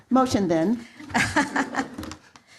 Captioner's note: laughter